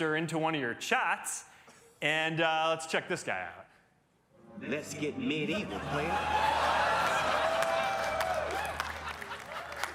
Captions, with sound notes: into one of your chats, and, uh, let's check this guy out. -Let's get medieval, playa. -(CROWD CHEERS, LAUGHS)